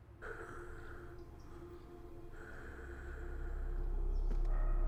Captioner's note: Meathook Man panting